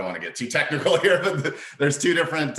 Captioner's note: laughs